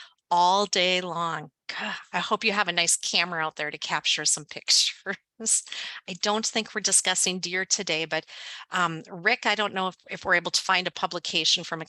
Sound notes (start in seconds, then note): 5.4 laughs